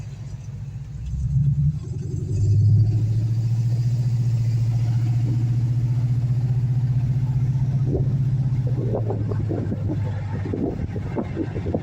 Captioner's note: engine exhaust